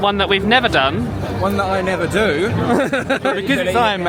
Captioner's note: laughing